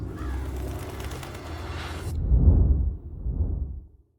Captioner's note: bird calls; clock chimes; wings flutter